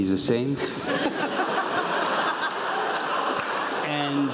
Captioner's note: laugh